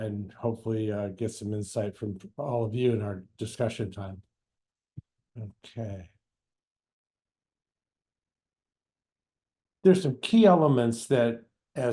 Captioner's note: pause